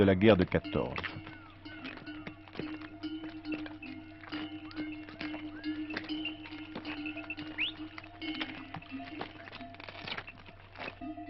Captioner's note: AUDIO - collar bells, whistle calls